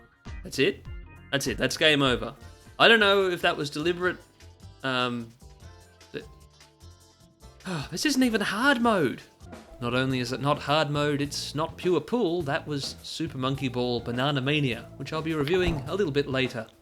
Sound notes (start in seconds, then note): 7.6 sigh